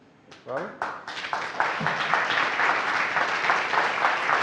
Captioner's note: applause